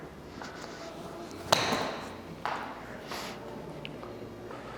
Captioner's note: golf club hits ball